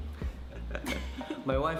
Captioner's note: chuckles